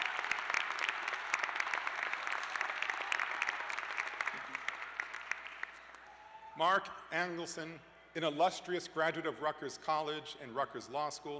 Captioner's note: cheers and applause